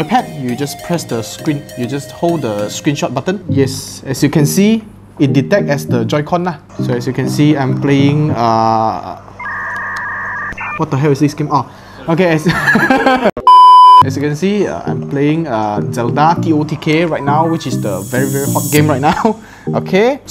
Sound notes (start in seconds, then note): 12.5 stupid Laugh